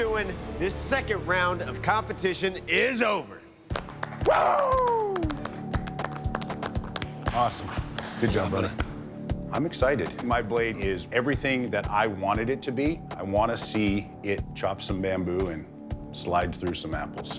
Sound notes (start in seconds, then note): 3.7 applause